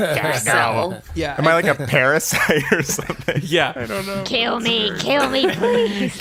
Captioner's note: imitating Krang voice